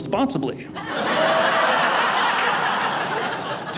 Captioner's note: audience laughing